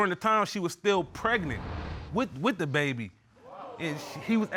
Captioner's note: audience gasps